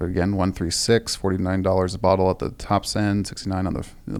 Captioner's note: none